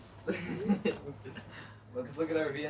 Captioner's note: chuckling; boys chuckle